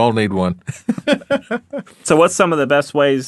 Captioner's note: laughing